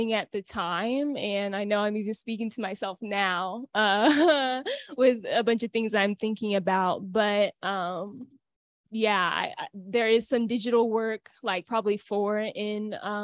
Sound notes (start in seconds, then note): 4.0 laughter